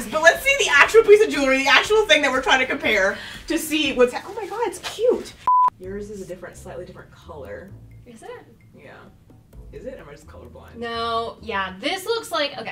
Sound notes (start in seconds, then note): 5.4 beep